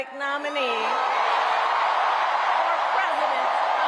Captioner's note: audience cheering loudly